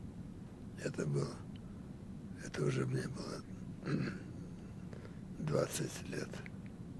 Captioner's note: clears throat